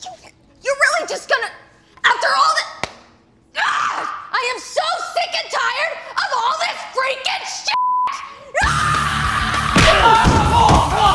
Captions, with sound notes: - You're really just gonna, after all that, I am so sick and tired of all this freakin (beep)! (screaming)